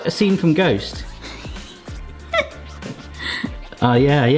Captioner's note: laughter